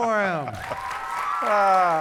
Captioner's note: audience clapping